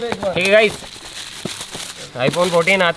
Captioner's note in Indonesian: suara membuka bungkusnya